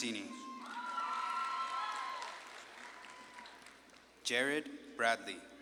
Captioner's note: audience claps and cheers